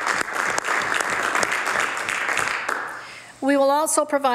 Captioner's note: some Applause